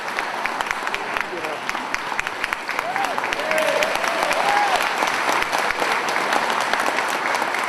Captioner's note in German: Applaus weiter